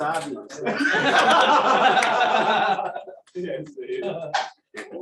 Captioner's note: laughter